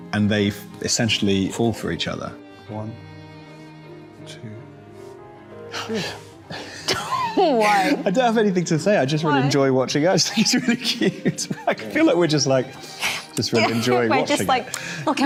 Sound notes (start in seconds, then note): 6.5 both laughing